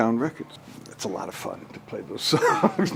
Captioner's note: laughs